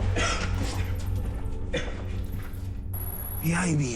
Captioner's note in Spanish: Tosidos